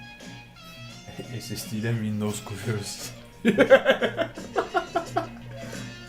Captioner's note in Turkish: gülüşler